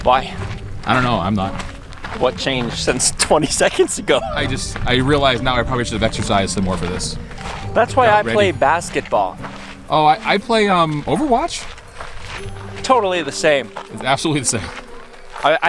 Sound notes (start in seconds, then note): 3.8 laughing